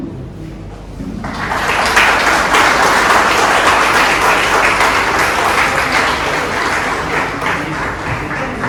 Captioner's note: clapping